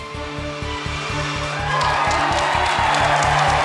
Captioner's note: Gritos e aplausos